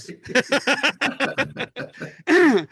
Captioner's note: laughing